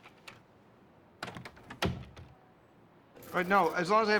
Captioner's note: door closes